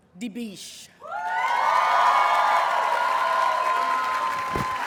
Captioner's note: audience cheers and applauds